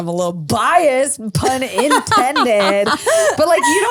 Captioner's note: laughs